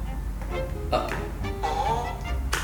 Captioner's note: farts